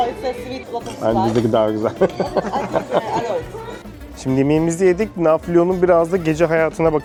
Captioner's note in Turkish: kahkaha